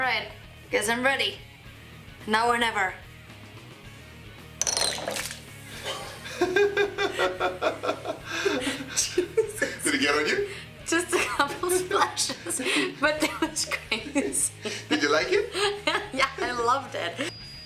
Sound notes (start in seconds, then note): 4.7 splashing; 5.8 laughing